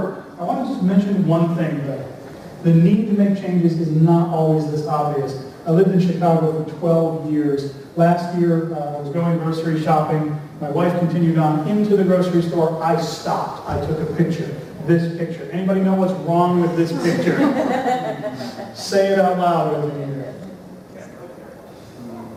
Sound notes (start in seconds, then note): 16.6 laughter